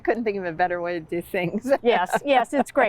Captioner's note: laughs